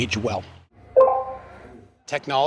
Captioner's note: beeping sound